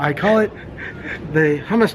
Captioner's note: laughing